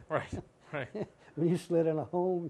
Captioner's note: laughter